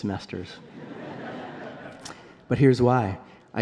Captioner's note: laughter